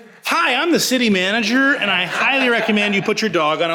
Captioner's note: audience laughs